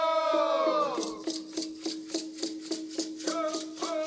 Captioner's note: drums pounding; rattles rattling; lead dancer chanting